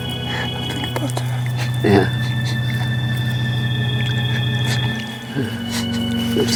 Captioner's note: crying